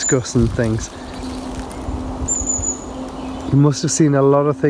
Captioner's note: birds chirping